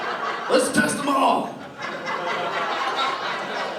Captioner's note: laughter